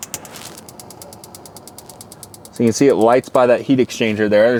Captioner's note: oven clicking